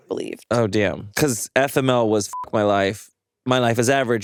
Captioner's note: beeps